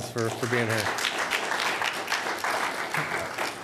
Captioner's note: applause